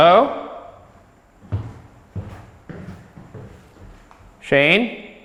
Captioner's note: footsteps descending